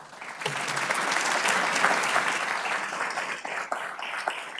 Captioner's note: audience clapping